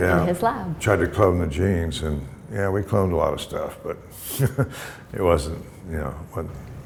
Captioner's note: chuckle